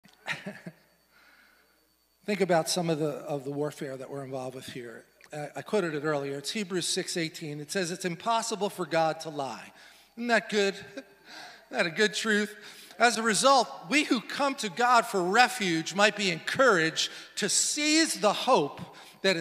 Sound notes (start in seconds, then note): 0.2 laughs